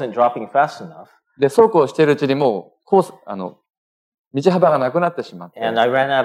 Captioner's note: speaking japanese